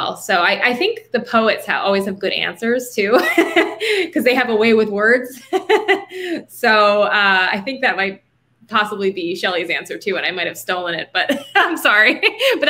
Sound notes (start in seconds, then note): 3.1 laughing